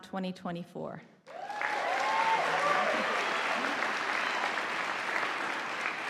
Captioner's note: audience applauding